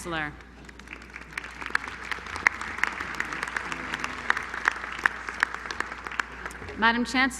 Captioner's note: applause